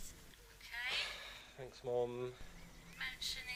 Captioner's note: sigh